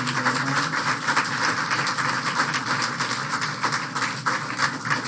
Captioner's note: applause